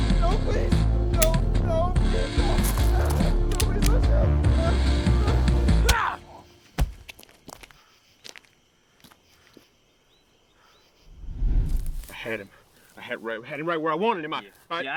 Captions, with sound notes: No, please! No! [Pistol clicks without firing] [Pistol cocked] No, please don’t shoot! No! No! Yaahh! [Thud] [Body hits ground] [Transition swoosh] I had him. I had, I had him right where I wanted him, I...